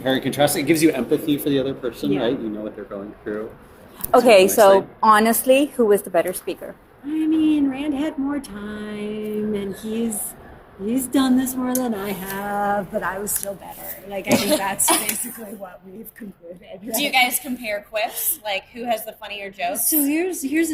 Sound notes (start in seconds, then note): 14.3 laughter